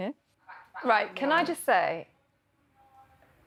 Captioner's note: none